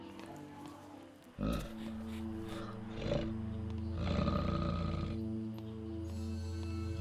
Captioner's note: bear growls; suspense music